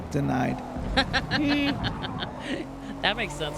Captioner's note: laughs